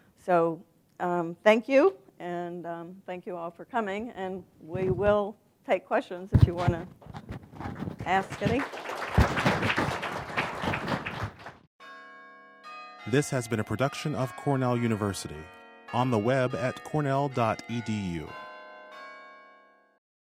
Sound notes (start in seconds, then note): 7.6 applause